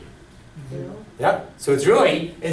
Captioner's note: voiceover